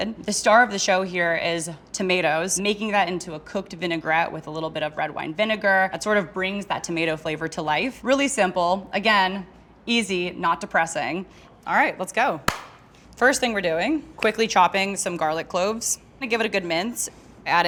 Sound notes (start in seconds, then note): 12.5 claps